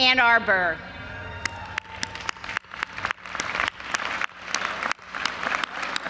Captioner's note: audience applauding